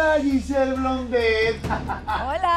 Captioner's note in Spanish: Ríe